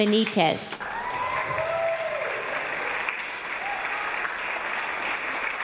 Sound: audience applause

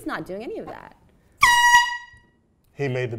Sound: air horn

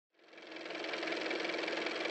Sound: car motor

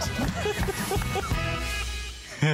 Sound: laughter

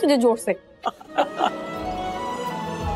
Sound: chuckling

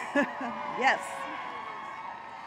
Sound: laughter

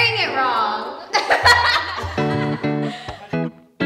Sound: laughs

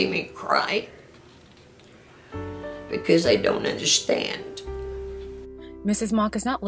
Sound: tearing up

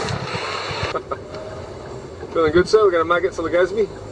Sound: laughing

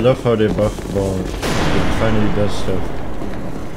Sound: explosion

